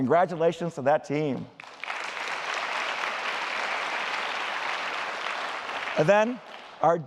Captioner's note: applause